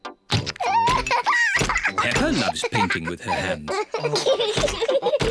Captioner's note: laughs; both laugh